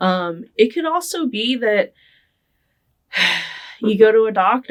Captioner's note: sighing